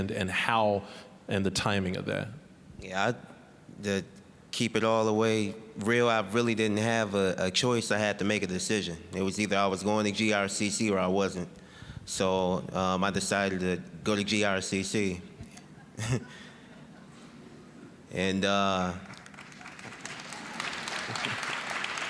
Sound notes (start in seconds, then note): 15.6 scattered chuckling; 19.0 applause